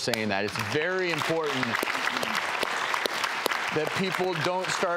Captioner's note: applause